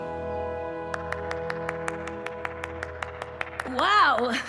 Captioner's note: one person applauding